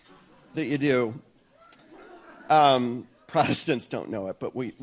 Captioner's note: audience laughs